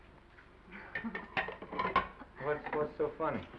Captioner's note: Esther chuckles; chuckles